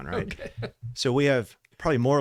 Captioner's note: laughs